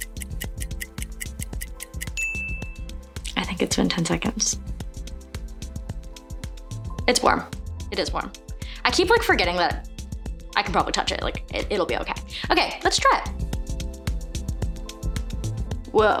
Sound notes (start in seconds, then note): 2.0 timer dings; 13.2 mellow party music